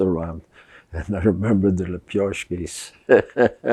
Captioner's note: laughing